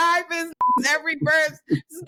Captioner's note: beep